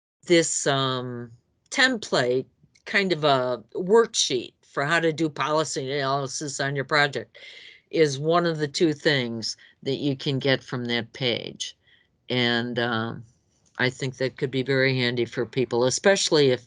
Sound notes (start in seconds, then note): none